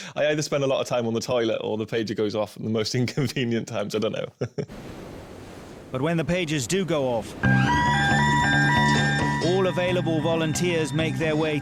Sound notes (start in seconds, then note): 5.3 laughing; 6.9 sirens waling